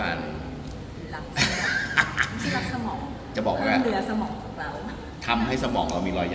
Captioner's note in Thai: เสียงหัวเราะ